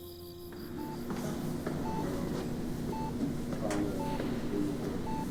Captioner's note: monitor beeping; footsteps clicking